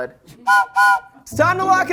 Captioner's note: whistle blows